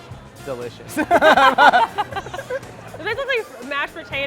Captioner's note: laughter